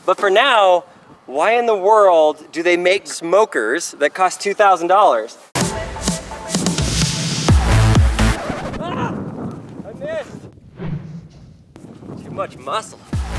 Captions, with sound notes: But for now why in the world do they make smokers that cost $2000? (upbeat music) (record scratches) Ah! I missed. Too much muscle.